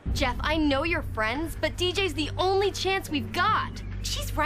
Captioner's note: none